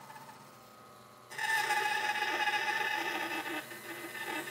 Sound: saw zings

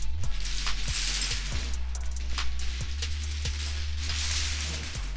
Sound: chains clinking

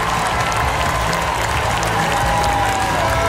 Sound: cheering

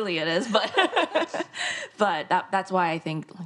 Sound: both laugh

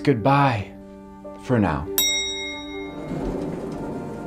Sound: elevator dings; mysterious music

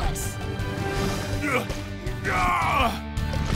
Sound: grunting

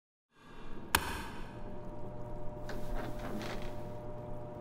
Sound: buzzing

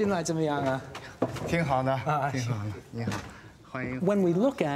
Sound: speaks in foreign language

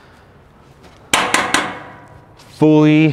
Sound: metal chinking

